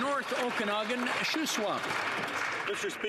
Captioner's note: some Applause